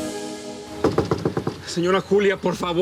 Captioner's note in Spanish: Toques en la puerta